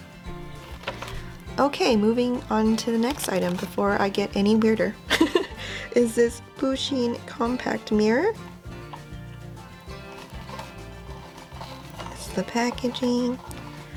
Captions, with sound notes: okay, moving onto the next item before I get any weirder. *cue weird laugh* is this Pusheen compact mirror. This is the packaging.